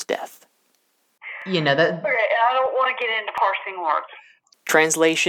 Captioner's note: on phone